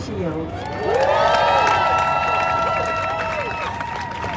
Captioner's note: crowd cheering